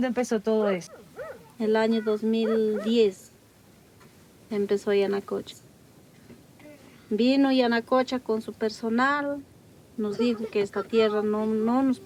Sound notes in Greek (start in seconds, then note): 3.0 γάβγισμα σκύλου